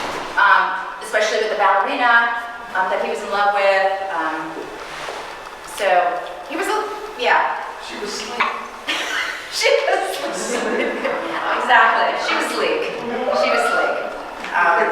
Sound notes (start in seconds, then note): 10.9 laughing; 12.3 audience chuckling